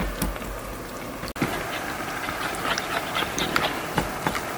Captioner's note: shake shake